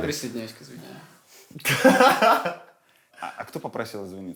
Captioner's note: laughs